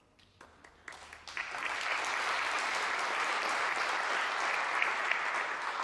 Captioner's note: applause